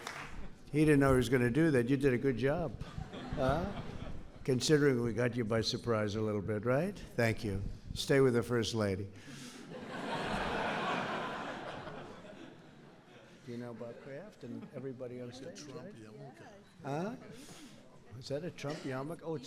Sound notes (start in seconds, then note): 2.8 laughter; 9.6 laughter